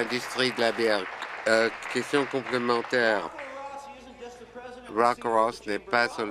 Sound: applause

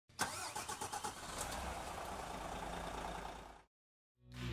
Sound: engine whirring

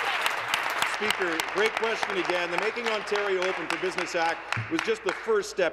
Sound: applause

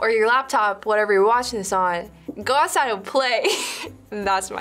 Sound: laughs

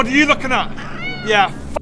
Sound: meow

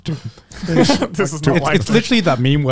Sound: everyone laughs

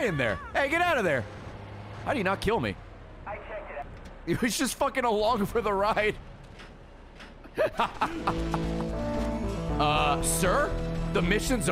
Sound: laughs

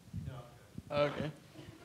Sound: audience murmuring

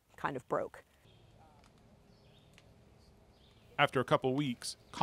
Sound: birds chirping

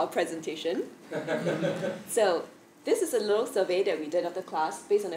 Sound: laugh

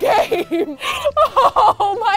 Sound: laughing

